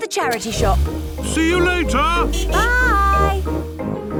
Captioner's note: honking